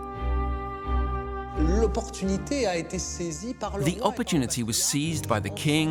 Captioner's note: speaking French